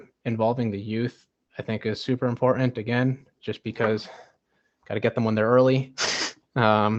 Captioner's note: laughs